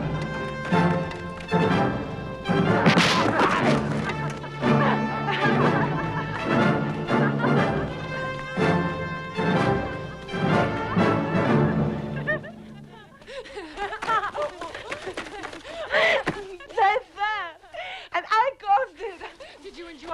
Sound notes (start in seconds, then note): 2.8 armor clatters; 5.5 both laughing